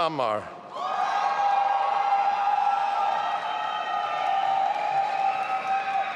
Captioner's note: audience applauding and cheering